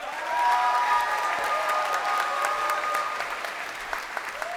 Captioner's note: crowd cheering